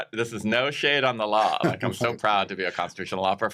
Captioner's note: chuckles